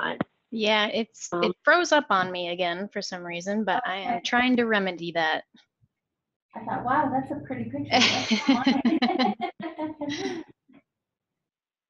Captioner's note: laughing